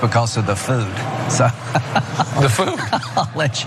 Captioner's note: laugh